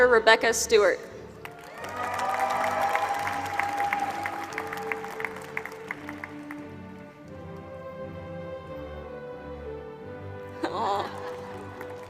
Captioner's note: applause